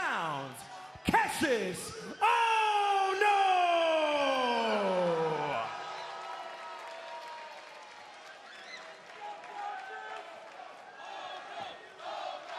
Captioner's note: crowd cheering